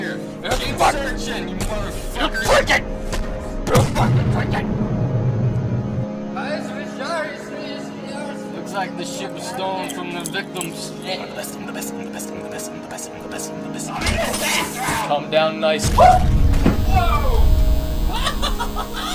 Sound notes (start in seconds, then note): 15.8 explosion; 18.0 obnoxious laughter